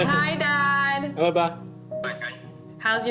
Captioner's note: laughing